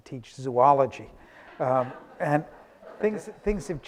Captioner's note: audience laughing